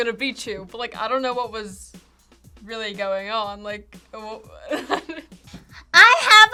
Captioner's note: laughs